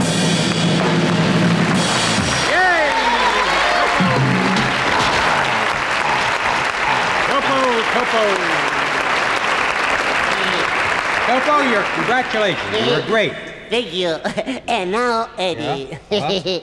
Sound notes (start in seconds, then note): 0.1 cymbals crash; 3.8 chatters excitedly; 4.8 audience cheers; 15.5 chuckles